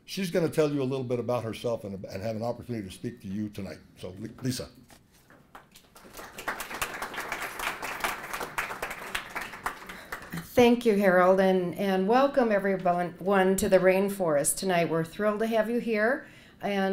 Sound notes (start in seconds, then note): 5.4 applause